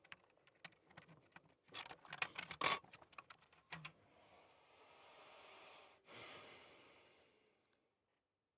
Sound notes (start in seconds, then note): 6.0 sigh